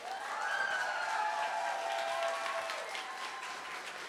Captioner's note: cheering, applause